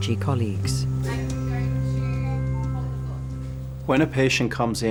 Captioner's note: people chattering